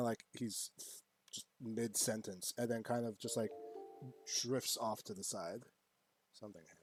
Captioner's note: alert Notification